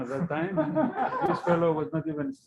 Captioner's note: laughter